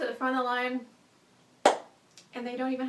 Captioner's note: claps hands together